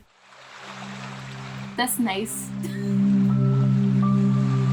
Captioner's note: water splashes; laughs